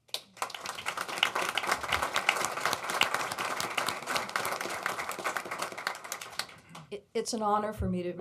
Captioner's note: applause